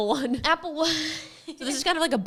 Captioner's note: laughs